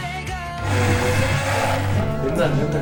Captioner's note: whirls